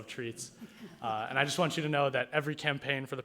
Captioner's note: people laughing